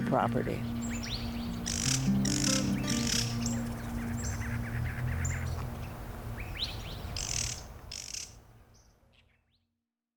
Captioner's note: music fades, birds call in the distance